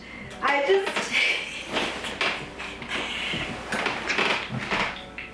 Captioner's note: laughs